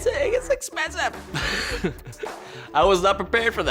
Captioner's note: laughs